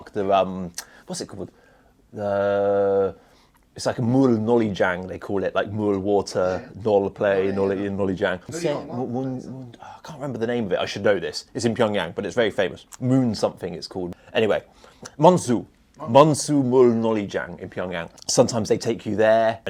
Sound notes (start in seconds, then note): 4.3 Korean